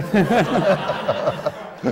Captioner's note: laughter